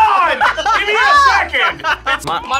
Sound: laugh

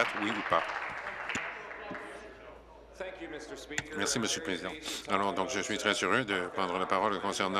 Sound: applause

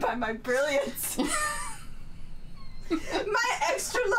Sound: both laughing

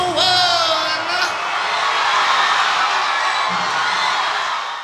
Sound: audience cheering

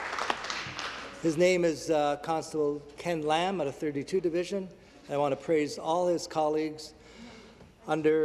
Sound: some Applause

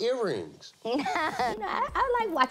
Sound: laughs

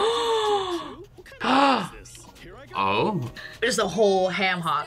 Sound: gasps

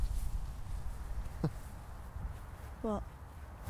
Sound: small laugh

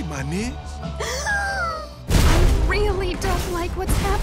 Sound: gasps

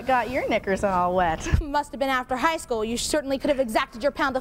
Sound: none

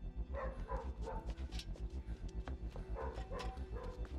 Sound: dog barking

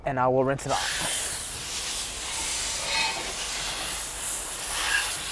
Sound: water spraying

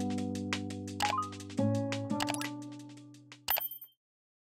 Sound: mouse clicks

